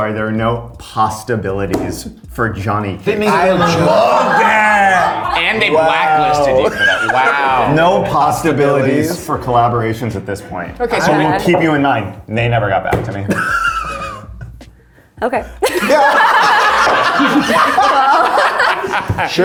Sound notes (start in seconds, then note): 3.1 all laughing; 13.2 laughs; 15.6 all laughing